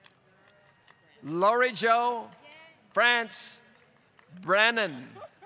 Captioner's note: applause